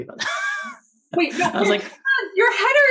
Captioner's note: laughs